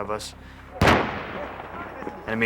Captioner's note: explosion